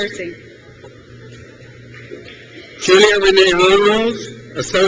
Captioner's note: crowd cheers